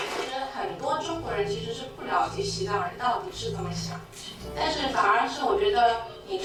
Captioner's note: classroom applauding; student speaking foreign language